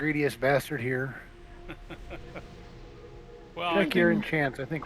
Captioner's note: laughs